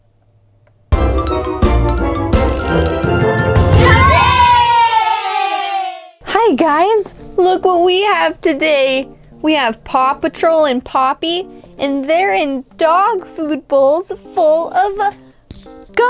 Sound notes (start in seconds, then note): 0.9 upbeat music; 3.6 kids cheering